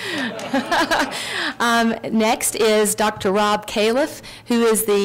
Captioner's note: laughs